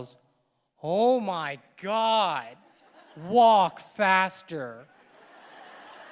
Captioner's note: audience laughing